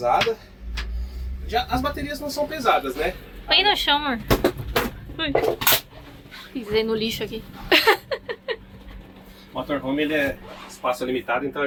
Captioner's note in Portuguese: risadas